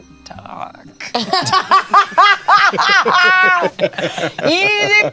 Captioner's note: Bug laughs